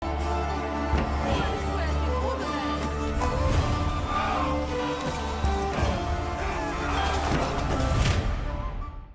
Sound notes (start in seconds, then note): 0.6 cheers